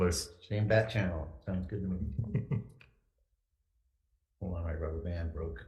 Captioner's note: giggles